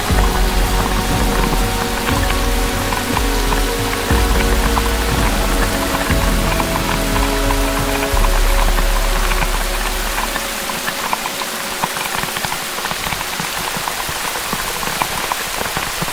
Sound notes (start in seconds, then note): 2.7 dramatic music playing; 2.7 heavy rain